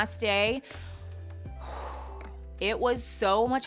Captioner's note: sharply exhales